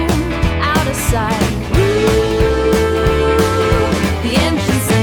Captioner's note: vroom vroom